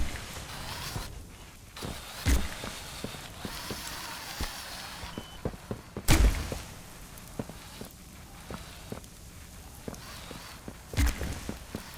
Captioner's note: lightning crackling